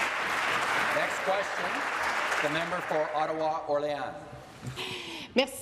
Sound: applause

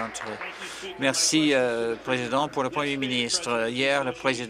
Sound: applause

